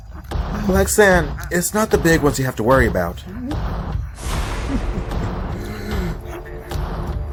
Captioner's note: snarling; gasp